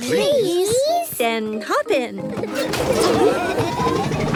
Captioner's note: laughing